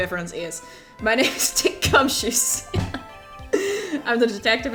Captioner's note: breaks into laughter